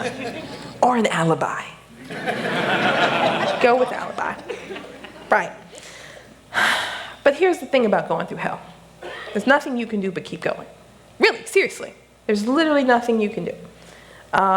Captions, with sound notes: That’s fine. Or an alibi! [Laughter] Go with alibi. [Sigh] But here's the thing about going through hell, there’s nothing you can do but keep going. Really, seriously, there is literally nothing you can do.